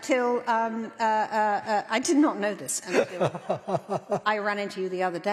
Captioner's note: laughter